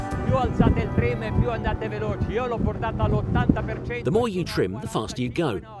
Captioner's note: speaking foreign language